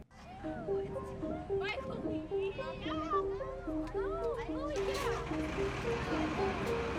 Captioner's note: soft instrumental music; students chattering